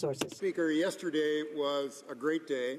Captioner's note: some Applause